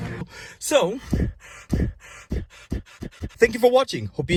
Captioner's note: hyperventilating